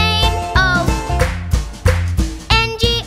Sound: clap

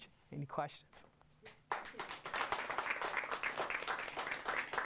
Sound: audience applauds

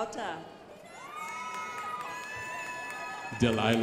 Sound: crowd applauding

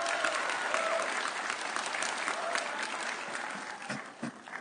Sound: audience cheering

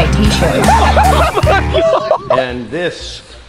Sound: laughs

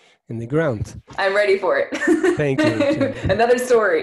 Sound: giggles

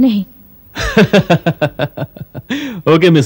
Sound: laughs

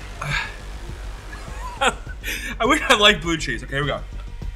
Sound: laughs

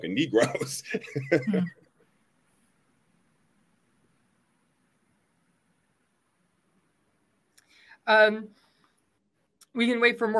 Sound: laughs

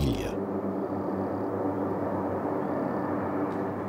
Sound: engines hum

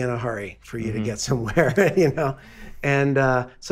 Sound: laughing

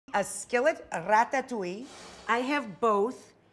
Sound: screen whooshes

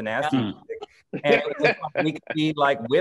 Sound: laughter

